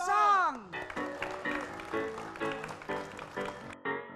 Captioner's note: applause